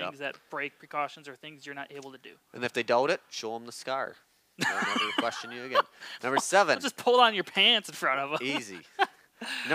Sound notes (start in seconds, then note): 4.6 laughing; 4.6 laughs